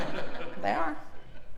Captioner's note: laugh